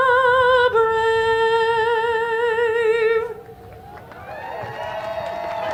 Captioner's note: applause